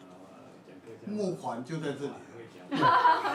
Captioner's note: background chatting